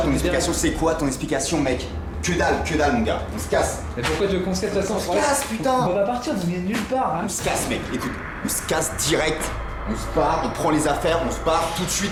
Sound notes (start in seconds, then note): 0.1 speaks French; 5.4 both speaking French; 8.8 speaks French